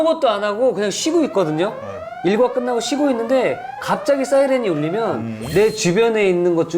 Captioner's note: heard a loud siren during the break